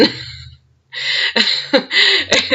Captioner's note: laughs